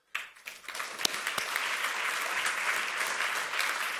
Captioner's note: audience applauds